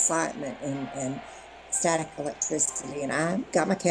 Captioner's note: crowd yelling